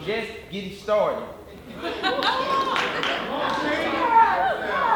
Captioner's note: audience shouting